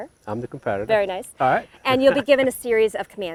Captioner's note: laughing